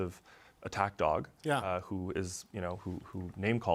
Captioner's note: speaking french